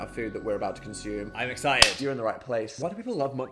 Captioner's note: hands clapping